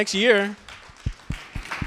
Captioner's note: applause